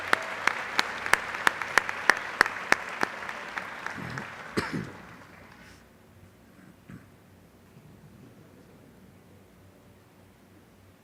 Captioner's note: applause